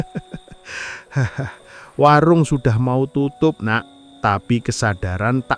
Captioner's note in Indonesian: tertawa